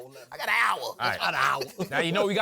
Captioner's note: accented; laughing